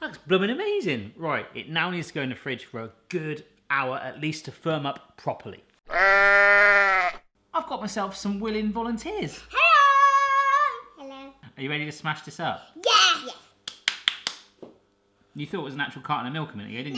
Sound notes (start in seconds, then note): 5.9 cow mooing; 13.6 clapping